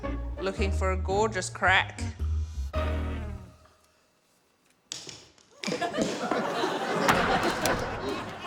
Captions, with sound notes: Looking for a gorgeous crack. (CRACK!) (LAUGHTER)